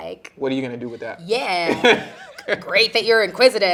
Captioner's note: interviewer chuckling